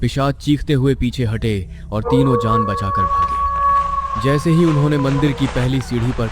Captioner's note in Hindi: चीखने की आवाज़